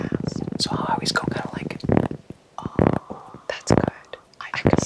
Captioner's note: taps